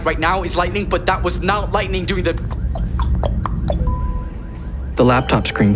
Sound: imitating tick-tock noise

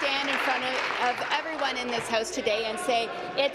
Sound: applause

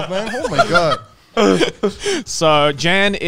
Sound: all laughing

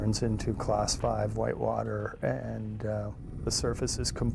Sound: voiceover

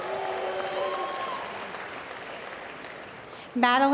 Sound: applause

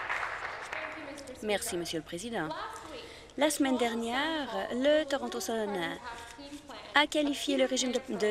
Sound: applause

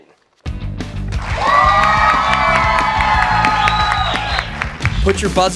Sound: cheers and applause

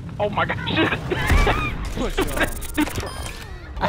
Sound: chuckles

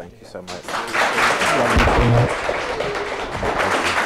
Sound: audience applauds

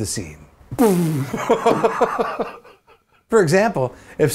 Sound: lips sputter, laughs

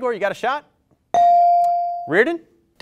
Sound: bell rings

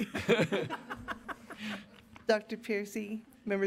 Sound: laughter

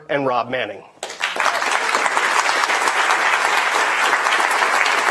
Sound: attendees applauding

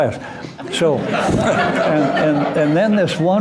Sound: laughter

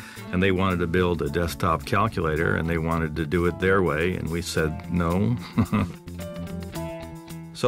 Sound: laughs

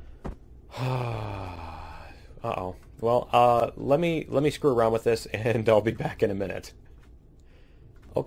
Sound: sighs

